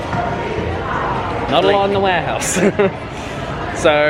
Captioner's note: laughs